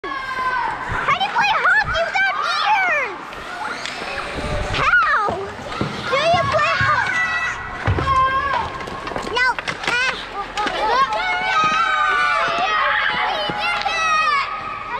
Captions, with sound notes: How do you play hockey without ears? How? Do you play h... No Ah (cheering) We did it!